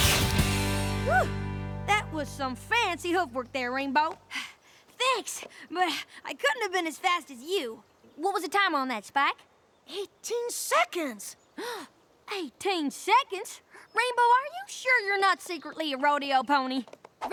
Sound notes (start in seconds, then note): 4.7 breathing heavily; 11.6 both gasp